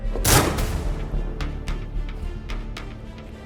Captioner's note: gun banging; dramatic music